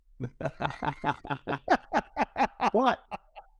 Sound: both laugh

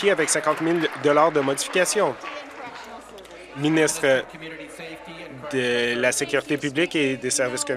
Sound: applause

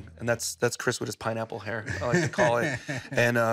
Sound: laughs

